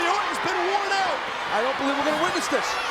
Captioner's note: audience cheers